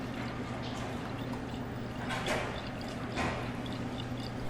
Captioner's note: dressing sloshing